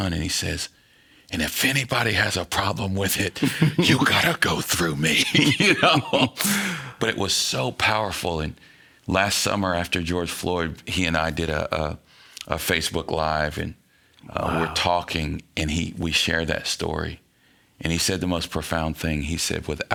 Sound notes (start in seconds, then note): 6.2 laughing